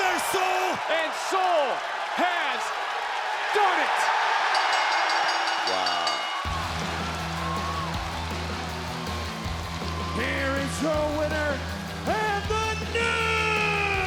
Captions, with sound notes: Get up there, Sol! And Sol has done it. (bell dinging) Wow. (theme music playing) Here is your winner and the new